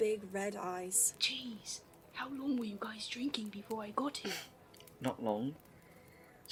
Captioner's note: Remus snorts